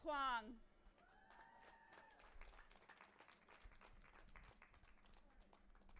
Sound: audience applauding and cheering

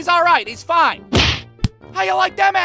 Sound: thwack!

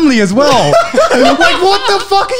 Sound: laughing loudly

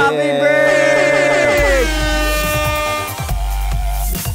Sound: airhorn blowing; throbbing synth music

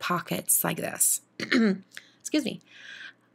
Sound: clears throat

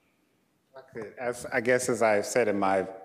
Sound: speaking faintly

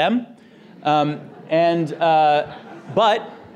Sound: audience laughter

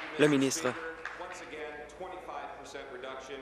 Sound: applause

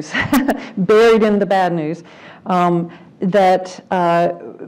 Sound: laugh

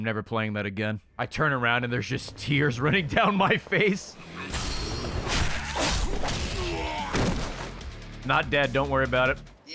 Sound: laughs

